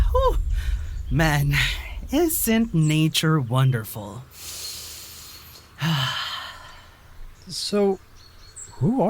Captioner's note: hw takes a deep breath